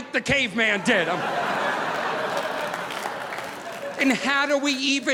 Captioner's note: audience laughing